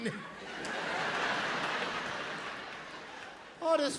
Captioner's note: crowd laughing